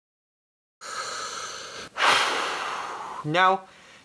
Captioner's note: deep breath